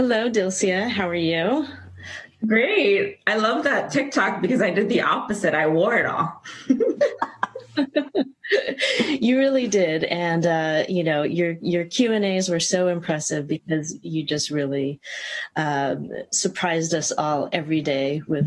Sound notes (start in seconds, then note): 6.4 laughter